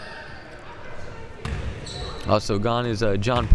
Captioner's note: ball pounding